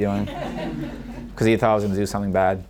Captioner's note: audience laughing